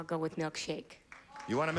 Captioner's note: audience groans